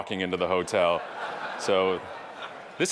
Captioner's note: audience laughing